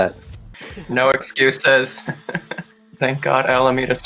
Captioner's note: laughs